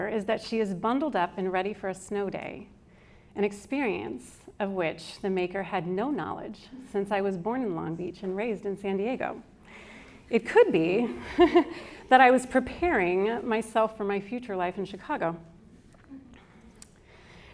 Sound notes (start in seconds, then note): 11.2 chuckles